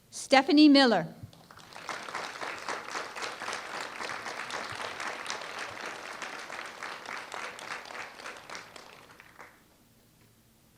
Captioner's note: applause